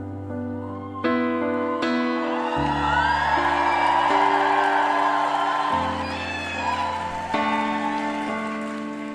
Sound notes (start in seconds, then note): 1.4 screaming